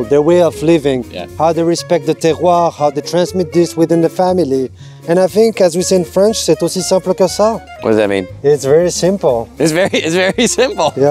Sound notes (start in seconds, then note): 6.9 speaking in French; 9.8 laughs